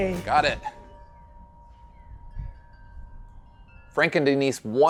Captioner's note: wind chimes chiming